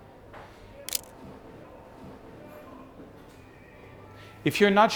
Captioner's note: camera shutter clicks